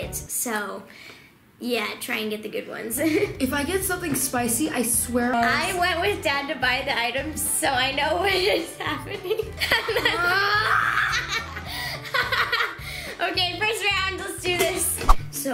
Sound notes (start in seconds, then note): 9.9 laughs; 10.4 screams